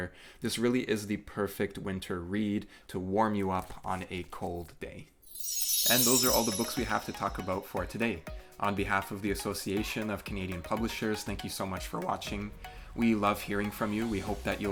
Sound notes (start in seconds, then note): 5.1 chime sound